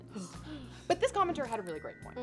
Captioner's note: shudders